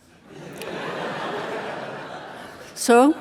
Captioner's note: audience laughing